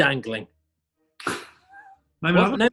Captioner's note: laughing